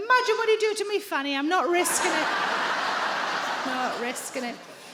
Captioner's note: audience laughing